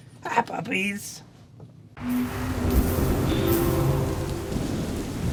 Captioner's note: lightning noises; clack, Clack, Clack